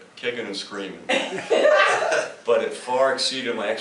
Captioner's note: laughter